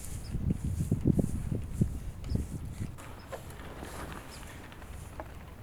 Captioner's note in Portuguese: som do pincel